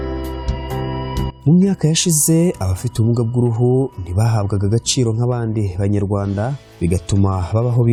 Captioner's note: speaking in Kinyarwanda